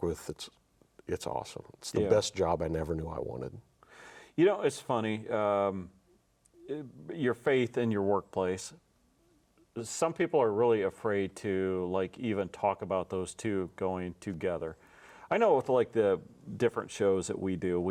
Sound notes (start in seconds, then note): none